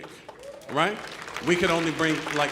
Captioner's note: audience applauding